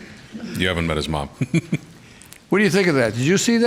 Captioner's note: laughs